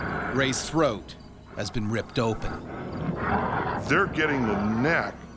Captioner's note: voiceover